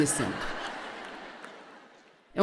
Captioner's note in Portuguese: audiência ri